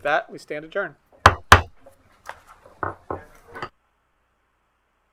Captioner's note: gavel banging